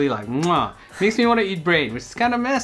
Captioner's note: kisses